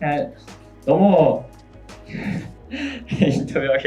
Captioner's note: laughs